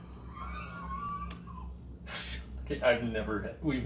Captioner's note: investigators chuckle